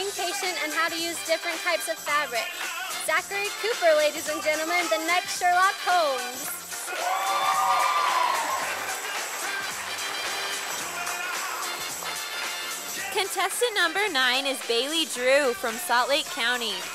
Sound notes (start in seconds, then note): 6.8 sound of cheers and applause from audience